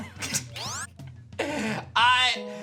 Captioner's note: giggles